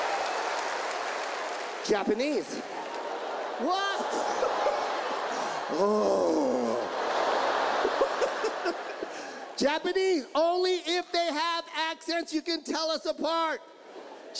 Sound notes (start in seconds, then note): 2.8 audience chuckles